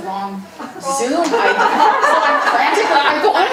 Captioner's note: audience laughing